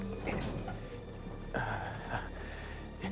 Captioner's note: gasping